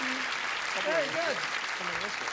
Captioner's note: clapping